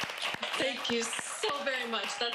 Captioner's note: audience cheers